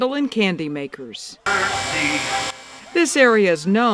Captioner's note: candy maker machine whirring